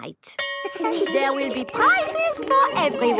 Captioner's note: school bell rings